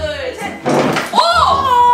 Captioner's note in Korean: 의자 끄는 소리; 감탄